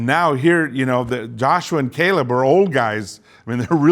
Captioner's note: chuckles